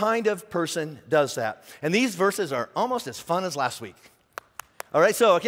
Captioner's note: clapping